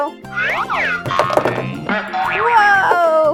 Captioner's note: loud swoop and zoing